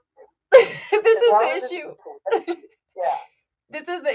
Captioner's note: laughs